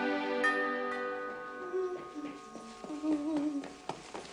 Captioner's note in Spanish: Timbre de la puerta